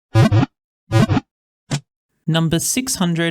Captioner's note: Pokéball wiggle sound